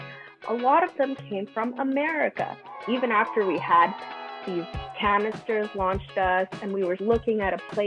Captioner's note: children boo